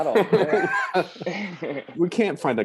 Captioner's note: laughter